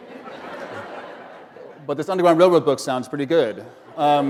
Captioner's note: laughter; laughter